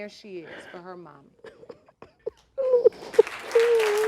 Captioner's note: sobbing